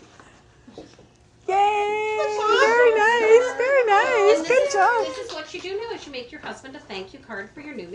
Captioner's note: laughing